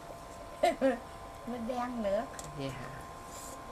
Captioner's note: laugh